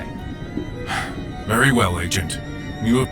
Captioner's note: sigh